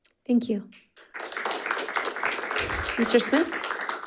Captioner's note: all clapping